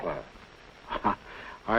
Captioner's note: chuckles